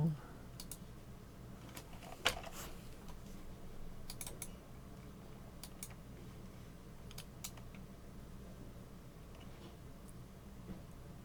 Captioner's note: typing and clicking